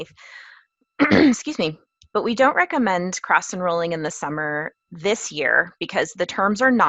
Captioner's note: cough